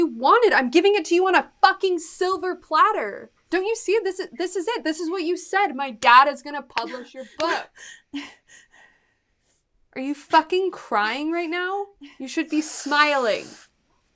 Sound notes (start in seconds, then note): 7.4 wheezes